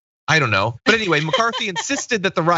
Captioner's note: laugh